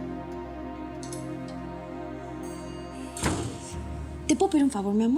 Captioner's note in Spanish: ruido al cerrar la puerta